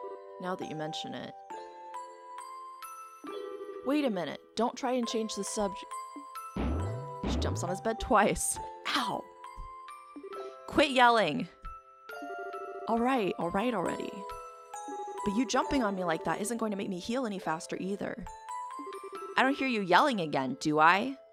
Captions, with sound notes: Now that you mention it... Wait a minute! Don't try and change the sub-- [DOUBLE BOING] She jumps on his bed twice. Ow! Quit yelling! All right, all right, already...! But you jumping on me like that isn't going to make me heal any faster, either! I don't hear you yelling again, do I?